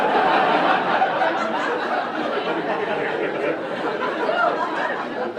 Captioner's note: audience laughing